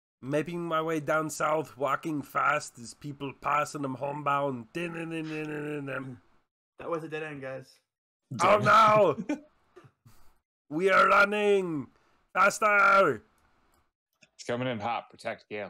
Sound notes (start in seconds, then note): 0.2 singing to himself; 8.3 yelling